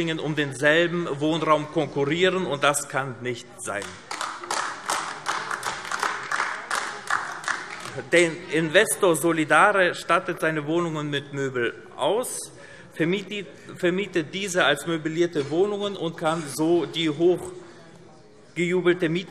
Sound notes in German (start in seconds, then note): 3.7 Beifall AfD